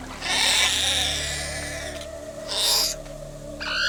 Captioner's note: coelophysis squawking